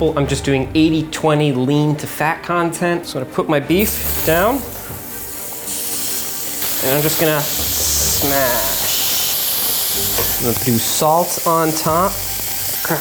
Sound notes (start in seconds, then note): 4.3 meat sizzling